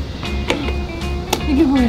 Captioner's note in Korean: 닦는 소리